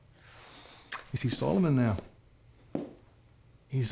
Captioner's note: scottish accent